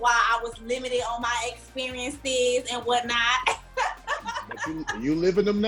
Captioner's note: laughs